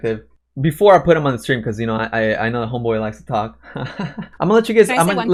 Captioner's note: laughs